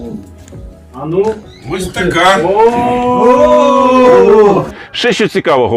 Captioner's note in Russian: Возглас одобрения